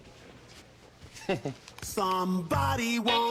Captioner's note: laughs